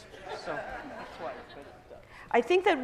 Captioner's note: laughter